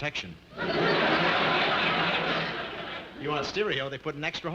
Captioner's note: audience laughing